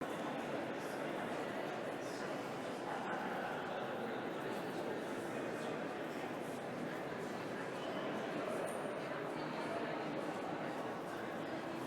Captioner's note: background Discussion